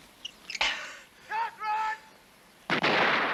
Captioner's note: man shouting